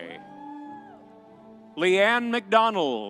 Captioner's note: audience cheering